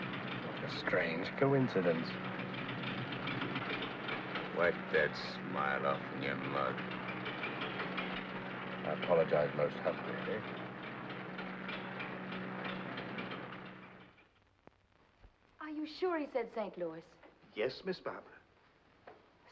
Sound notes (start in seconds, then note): 2.6 engine sputters; 11.6 engine clatters